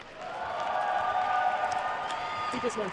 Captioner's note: attendees cheering and applauding